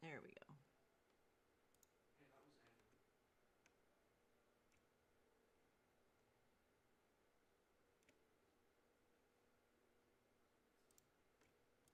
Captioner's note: mouse and keyboard clicking